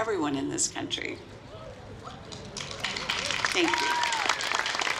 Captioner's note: applause